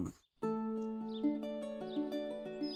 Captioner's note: birds chirping